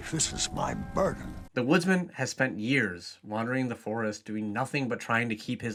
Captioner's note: voiceover